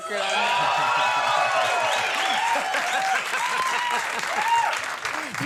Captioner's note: audience cheering wildly